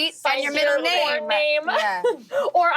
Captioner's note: laughing